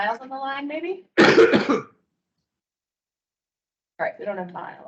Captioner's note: coughs